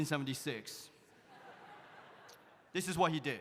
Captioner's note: audience laughs